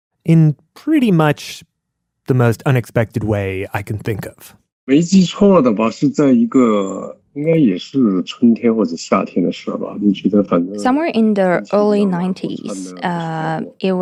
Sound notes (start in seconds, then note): 6.1 speaking Mandarin Chinese